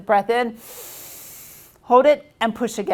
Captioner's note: inhales